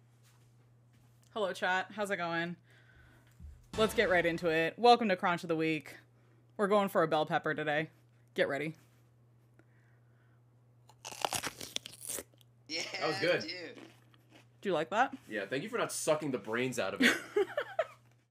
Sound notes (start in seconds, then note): 10.9 cronch; 17.0 laughs